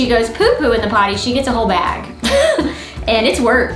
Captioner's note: laughs